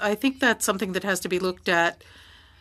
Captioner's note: speaking french